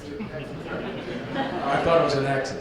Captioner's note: audience laughs